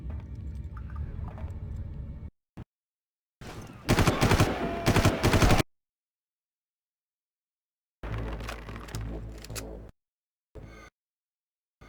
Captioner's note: gun firing